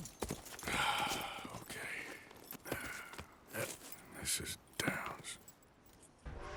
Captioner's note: talking to himself, sighs and gets on his shorse